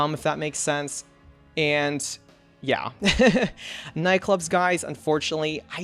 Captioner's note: laughs